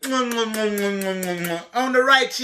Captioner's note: kisses